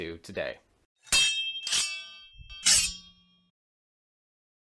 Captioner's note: metals crushing